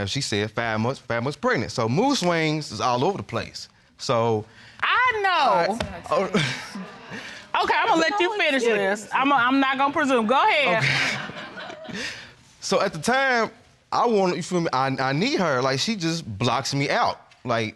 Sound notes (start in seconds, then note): 6.0 chuckles; 10.6 laughter